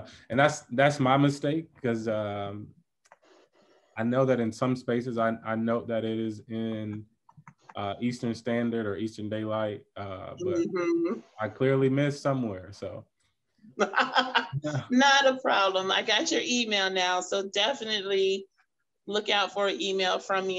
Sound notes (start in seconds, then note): 13.8 laughing